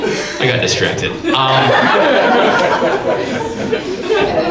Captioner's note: audience laughs